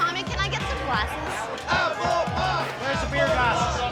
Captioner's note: chanting